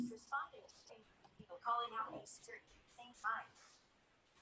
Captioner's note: phone talking